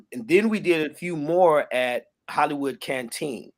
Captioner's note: none